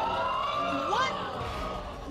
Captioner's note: audience exclaiming